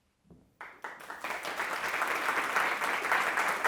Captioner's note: applause